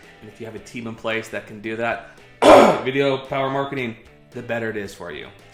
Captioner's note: clears throat